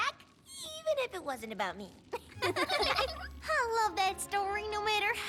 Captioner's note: laughter